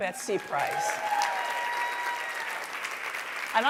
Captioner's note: applause